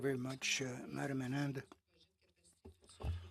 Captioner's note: speaking French